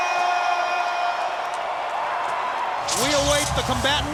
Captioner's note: crowd cheers